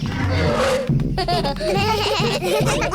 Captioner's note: roars; children giggle